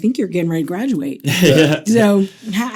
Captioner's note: laughing